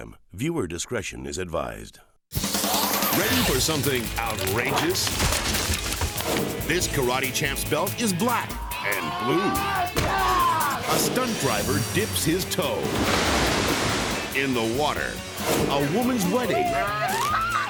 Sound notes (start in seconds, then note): 2.3 upbeat instrumental music; 5.3 bike crashes; 8.9 karate champ screams; 9.4 head thuds; 12.8 water sloshing; 16.5 bride screams; 17.4 swan squawks